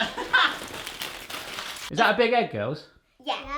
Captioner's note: laughing